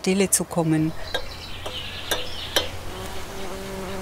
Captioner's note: birds chirping, bees humming